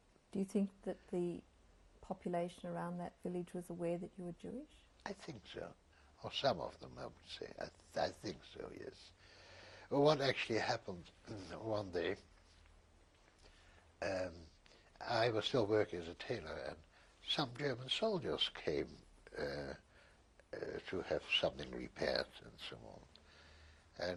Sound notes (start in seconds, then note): 13.2 pauses for 3 seconds